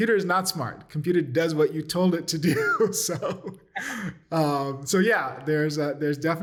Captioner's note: laughter